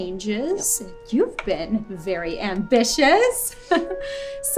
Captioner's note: chuckles